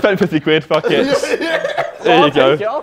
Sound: JJ laughing

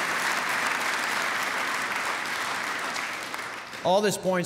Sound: applause

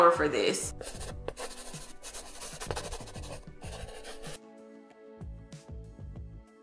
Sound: muffled gentle music; chalk brushing

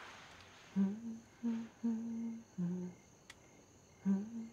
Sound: humming

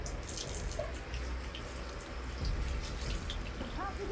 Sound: faucet runs

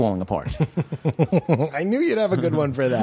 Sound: laughter

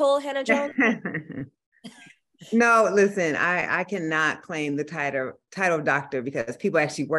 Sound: laughs

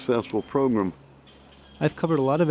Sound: sounds of birds chirping

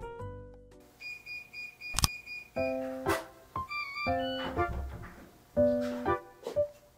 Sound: door Keypad

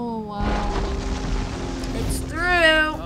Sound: crash

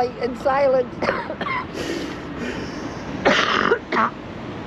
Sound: woman coughs

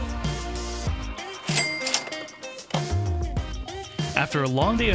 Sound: dings

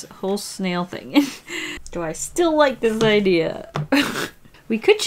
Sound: laughs

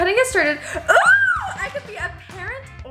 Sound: yells

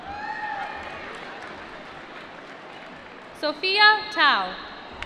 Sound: applause

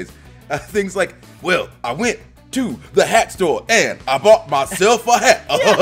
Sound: laugh

